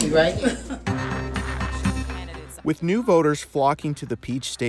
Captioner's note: laugh